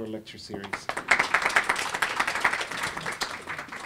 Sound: clapping

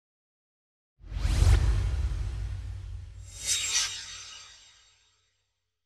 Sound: swoosh

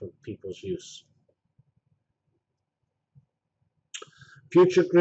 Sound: pause

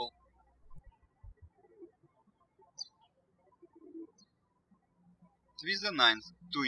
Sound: birds chirping

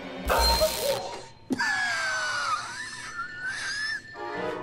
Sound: tense music; Corbin coughs

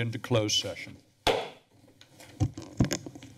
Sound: gavel tap

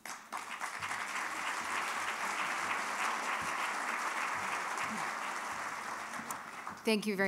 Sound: applause

